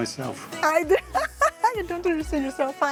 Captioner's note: laughs